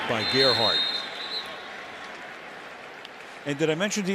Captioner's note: whistle blows